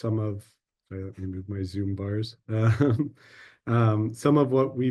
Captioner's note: laughs